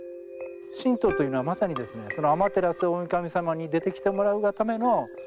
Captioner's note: speaking in Japanese